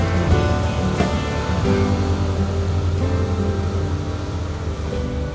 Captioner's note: sound of train's engines